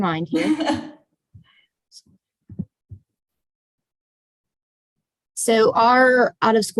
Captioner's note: laugh